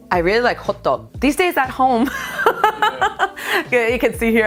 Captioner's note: laughs